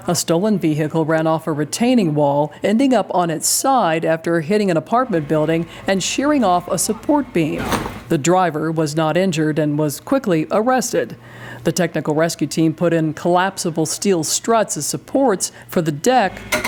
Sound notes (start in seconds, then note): 7.2 car bumps